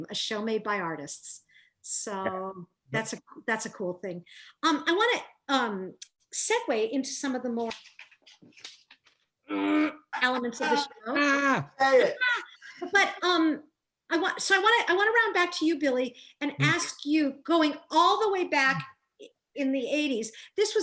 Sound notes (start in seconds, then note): 9.5 groans